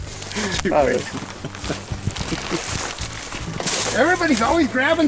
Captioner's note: laughter